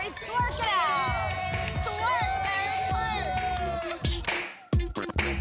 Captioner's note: cheering